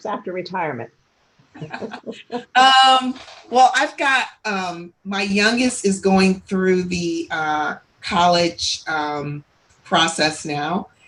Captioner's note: laughs